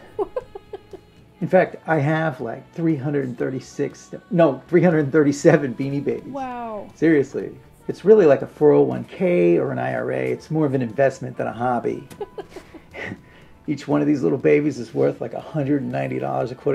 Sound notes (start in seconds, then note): 11.9 Lisa laughs